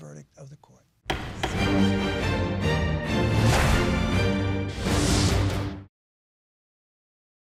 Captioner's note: gavel banging; dramatic music